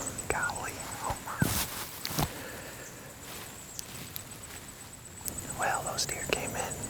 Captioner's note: whispering; whispering